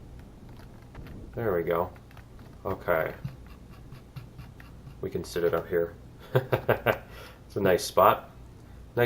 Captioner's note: mouse wheel scrolling; laughs